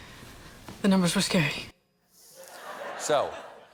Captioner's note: laughter